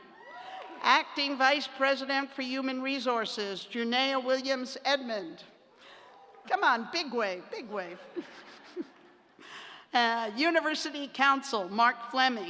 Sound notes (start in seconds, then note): 7.8 laughter